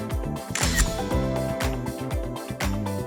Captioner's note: camera clicks; upbeat music